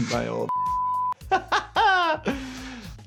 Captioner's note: laughing